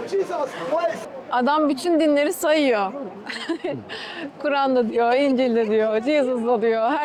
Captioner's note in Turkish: kahkaha